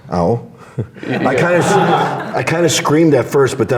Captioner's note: laughs